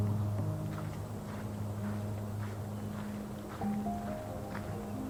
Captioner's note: footsteps crunching